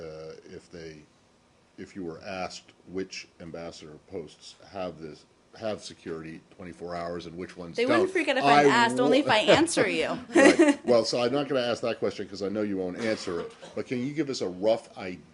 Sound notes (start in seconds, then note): 10.1 laughter